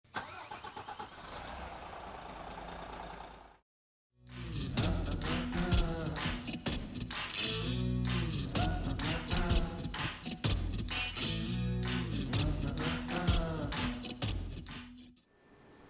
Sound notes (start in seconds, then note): 0.1 car starting; 4.3 upbeat music